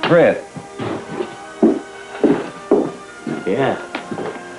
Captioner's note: footsteps